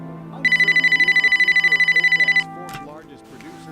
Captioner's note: phone ringing